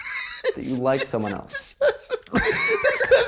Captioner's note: both wheezing